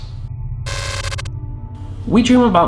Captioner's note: static whirring